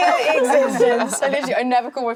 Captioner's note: actresses laughing